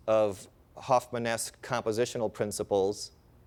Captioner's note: none